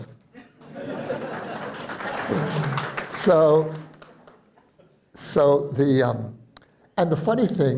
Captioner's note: laughter and applause